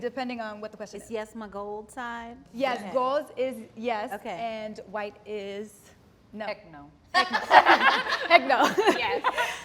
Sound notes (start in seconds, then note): 7.2 all laugh